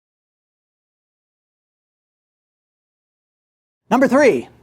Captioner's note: silence